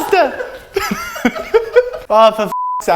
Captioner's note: laughs